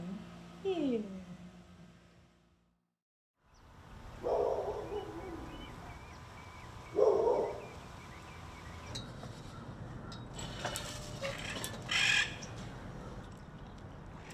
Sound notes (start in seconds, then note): 4.3 dog barks; 11.9 parrot squawks